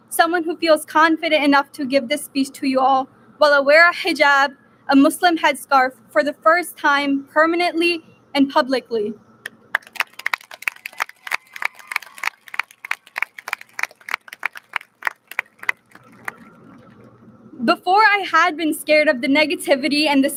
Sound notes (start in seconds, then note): 9.7 audience lauds